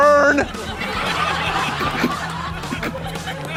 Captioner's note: laughter